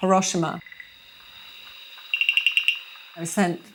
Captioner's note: crickets chirping